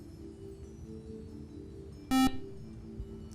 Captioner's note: buzzer